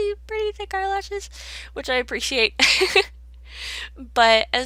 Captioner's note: laughs